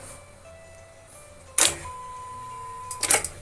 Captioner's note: clicking